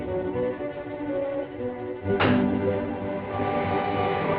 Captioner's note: metal clangs